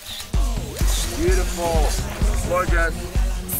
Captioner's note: camera snaps